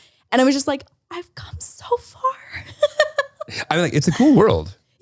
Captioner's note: laughs